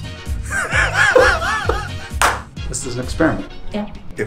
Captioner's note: laughs